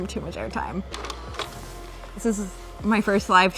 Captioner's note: clicking